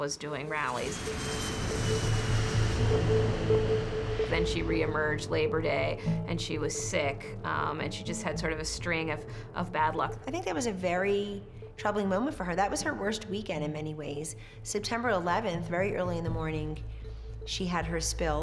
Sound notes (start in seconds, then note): 6.9 plane engine roaring